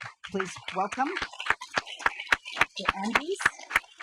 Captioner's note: audience applauding